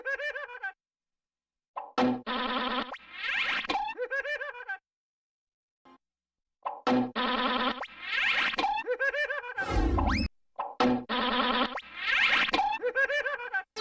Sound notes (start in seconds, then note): 6.7 cartoon sounds continuing